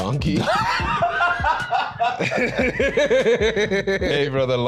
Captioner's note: both laughing